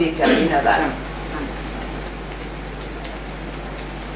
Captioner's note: tapping